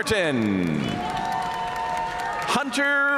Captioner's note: audience cheering and applauding